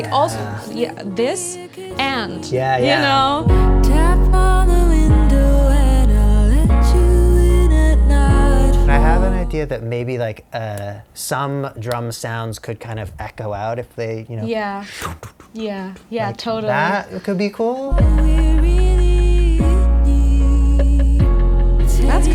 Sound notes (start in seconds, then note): 14.8 vocalizes echo